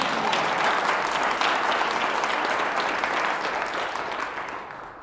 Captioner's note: applause